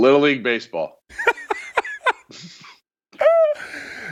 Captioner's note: laughing